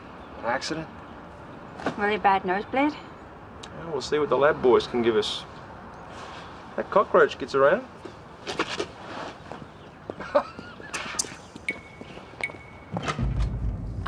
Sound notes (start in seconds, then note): 8.4 shuffling of feet; 10.2 laughing